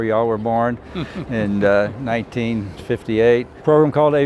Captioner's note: laughing